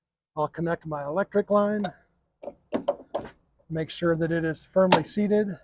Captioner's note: metal clanking